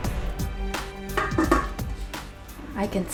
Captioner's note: lid clanging